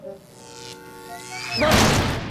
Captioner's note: buzzing